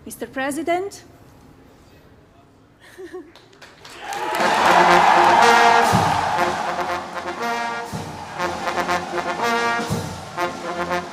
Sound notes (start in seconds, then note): 3.3 applause